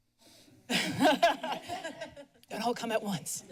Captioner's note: laughs